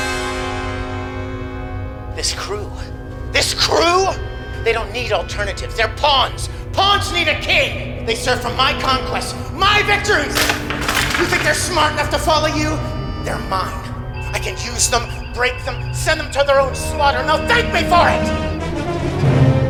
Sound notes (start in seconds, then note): 1.8 kirk's speech echoes shipwide